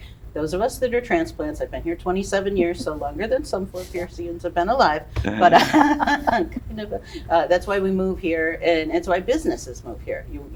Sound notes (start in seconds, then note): 5.1 laughs